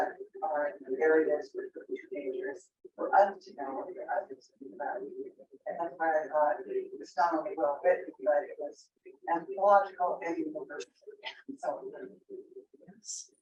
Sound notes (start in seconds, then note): 5.3 video makes distorted noises; 7.3 speaks distorted electronically